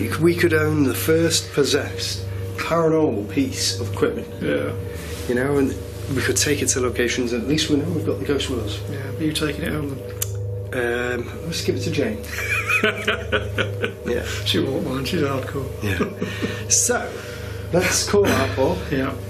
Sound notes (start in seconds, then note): 12.3 laughing